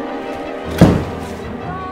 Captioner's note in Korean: 쾅 문열리는 소리